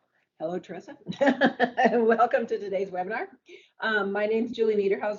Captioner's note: laughs